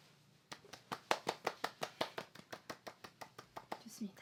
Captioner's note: sound of clapping